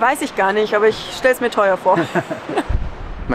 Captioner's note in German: Lachen